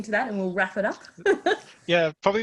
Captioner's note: laughs